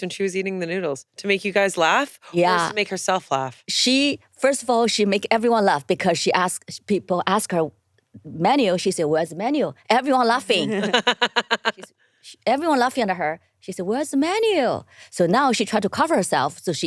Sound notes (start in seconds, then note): 10.4 laughing